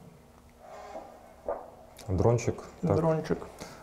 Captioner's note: drone